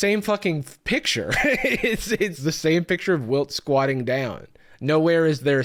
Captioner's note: laughs